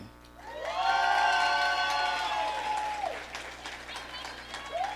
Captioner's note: audience cheering